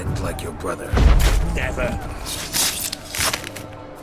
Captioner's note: thunderous boom